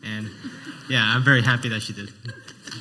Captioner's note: laughing